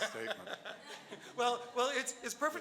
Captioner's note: laughing